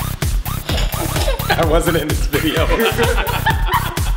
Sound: laughs

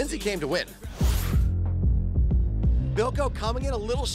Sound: whoosh

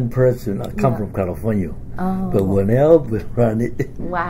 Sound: laughs

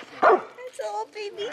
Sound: dog bark

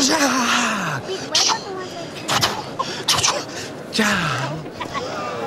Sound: mimics heart beat

